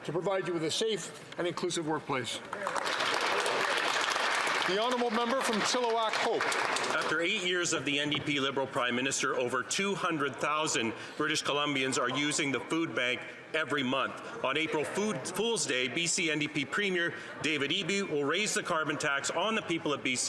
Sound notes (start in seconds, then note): 6.3 some Applause